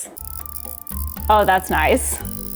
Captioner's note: tool clicking